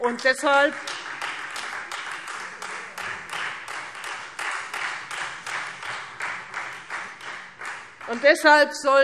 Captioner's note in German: Beifall Freie Demokraten